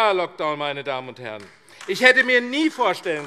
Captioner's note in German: Beifall AfD